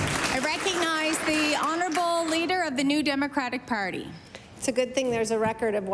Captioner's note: applause